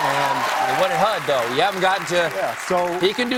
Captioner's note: cheers and applause